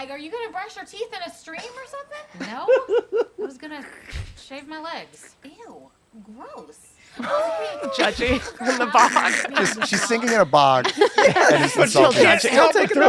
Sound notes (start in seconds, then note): 7.2 laughter